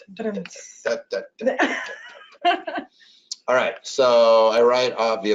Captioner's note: laughs